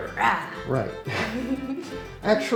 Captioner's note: roars like a bear